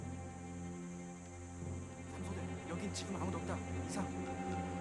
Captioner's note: speaking Korean